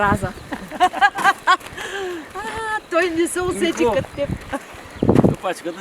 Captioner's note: laughter, he didn’t catch that like you did!